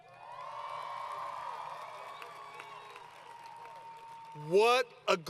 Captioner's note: applause